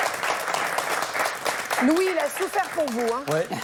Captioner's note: applause from the audience